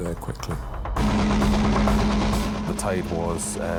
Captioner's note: lifeboat engine whirring